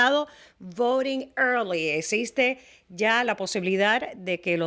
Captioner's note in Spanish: Hablando ingl\s